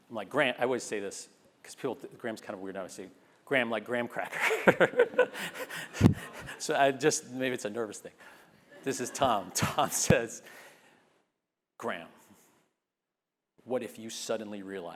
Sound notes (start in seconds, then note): 4.2 laugh